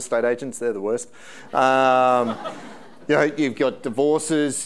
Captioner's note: audience laughing